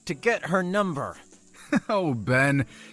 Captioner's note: laughing